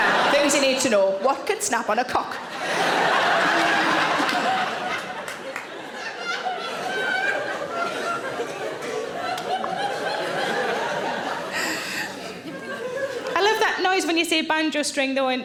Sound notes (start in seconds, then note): 2.9 audience laughing